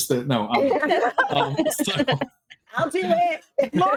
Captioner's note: everyone laughing